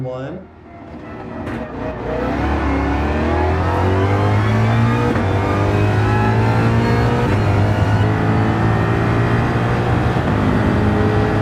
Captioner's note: engines revving, cars noises